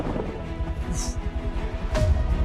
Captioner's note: exhales